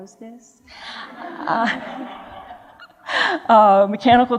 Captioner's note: laughter